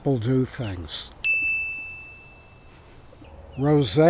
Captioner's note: bell chiming